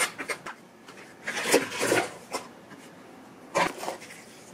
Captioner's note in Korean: 와르르